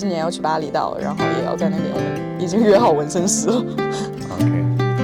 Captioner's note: laughs